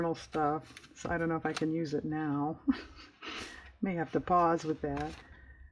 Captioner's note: laughs